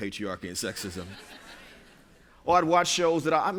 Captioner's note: laughter